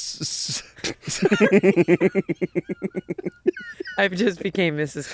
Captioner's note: laughing